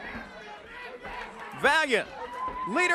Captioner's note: crowd chatter